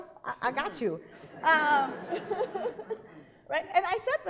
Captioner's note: laughing